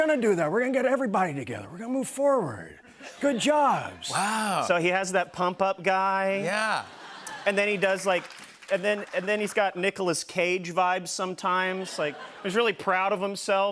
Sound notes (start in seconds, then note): 4.8 normal voice